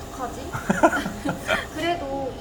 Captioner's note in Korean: ㅎㅎㅎ, ㅎㅎㅎ